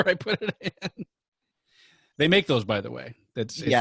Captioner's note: laughing